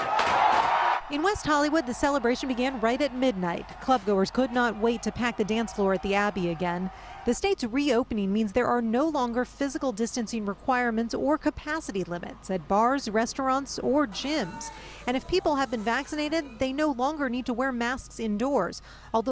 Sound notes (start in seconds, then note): 4.3 cheers and applause